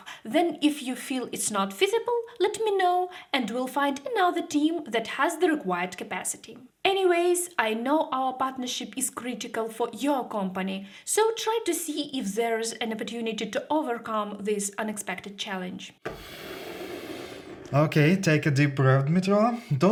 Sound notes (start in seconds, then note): 16.0 inhaling